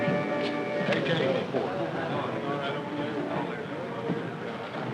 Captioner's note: all chattering